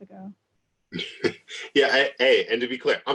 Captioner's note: laughs